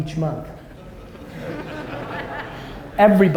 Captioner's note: audience laughter